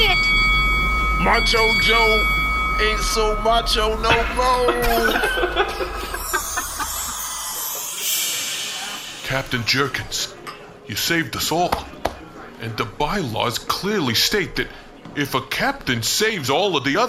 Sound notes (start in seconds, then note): 1.2 ding; 2.2 strained